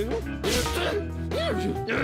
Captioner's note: exclaims irritably